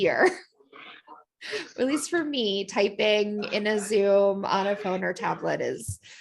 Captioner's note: laughter